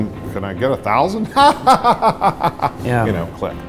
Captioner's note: derisive laughing